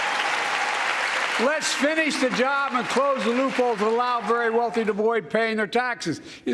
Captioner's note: applause